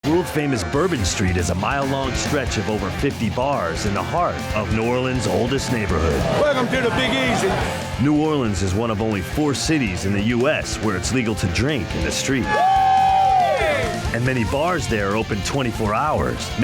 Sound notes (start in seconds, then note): 12.3 crowd cheering